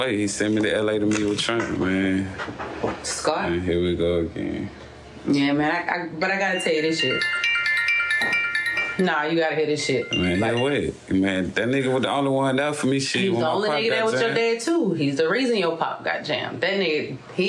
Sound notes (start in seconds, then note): 6.2 phone ringing